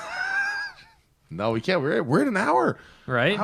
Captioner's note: laughter